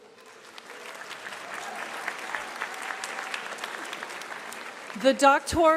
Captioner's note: applause